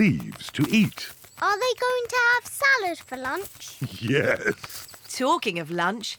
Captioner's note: laughs